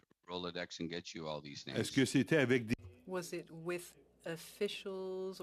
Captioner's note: speaking French